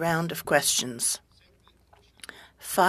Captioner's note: speaking french